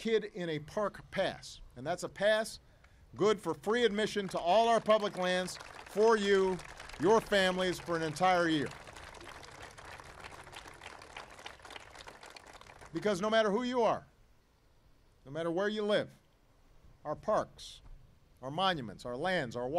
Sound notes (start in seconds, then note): 10.9 applause